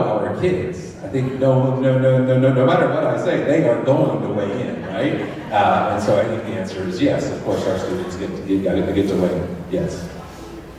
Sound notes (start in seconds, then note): 4.7 laughter